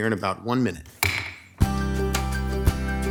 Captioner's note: gavel knocking; lighthearted music